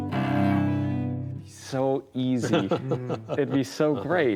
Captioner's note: laughs